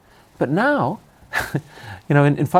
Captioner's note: laughs